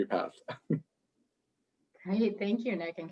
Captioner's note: chuckles